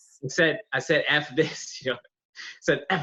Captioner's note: laughs